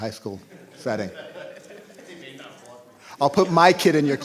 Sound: laughter

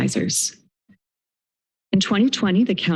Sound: silence

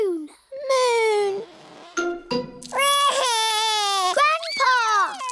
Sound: wails

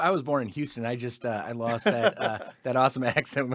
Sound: laughing

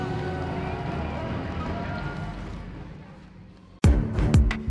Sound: crowd cheering; upbeat outro music

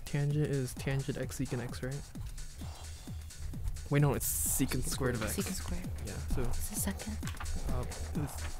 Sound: whispering

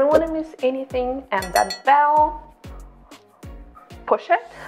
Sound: bell clanks

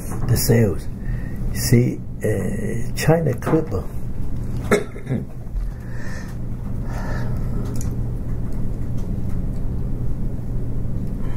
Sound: coughs, breathes, long pause

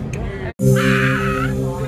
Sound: screams

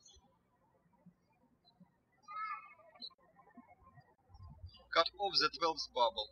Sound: birds chirping

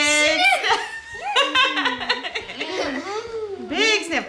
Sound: laughing

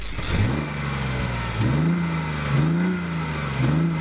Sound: car engine revving

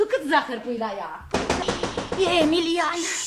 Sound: bangs on the door

